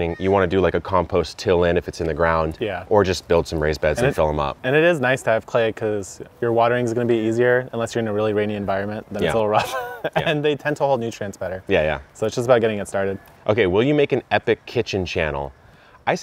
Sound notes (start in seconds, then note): 9.2 laughing